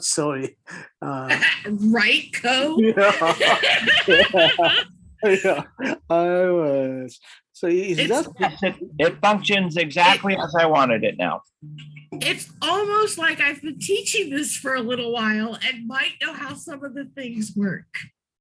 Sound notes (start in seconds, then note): 2.6 laughs; 2.8 everyone laughing